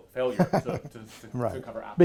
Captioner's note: laughs